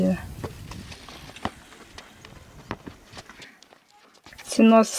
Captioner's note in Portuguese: Passos na terra